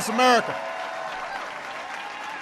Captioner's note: applause